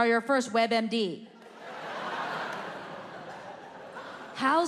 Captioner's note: audience laughing